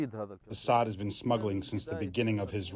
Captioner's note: through translator